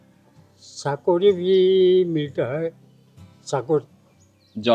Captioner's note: speaking Assamese